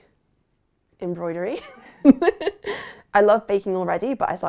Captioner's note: laughs